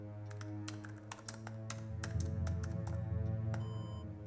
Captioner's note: clap